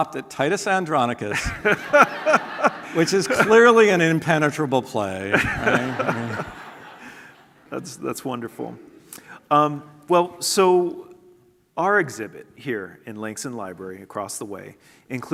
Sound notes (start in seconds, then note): 5.3 laughter